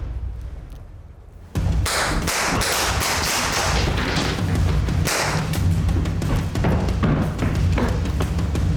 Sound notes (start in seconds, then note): 2.1 fires gun